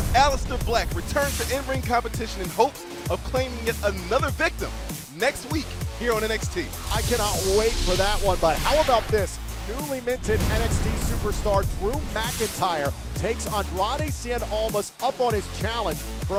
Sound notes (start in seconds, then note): none